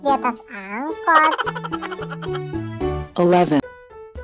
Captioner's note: sound laugh